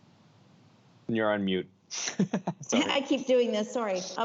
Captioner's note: chuckles